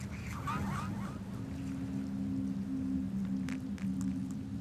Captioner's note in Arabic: دوي رعد بعيد; موسيقى مخيفة